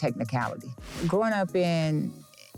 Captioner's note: air whooshing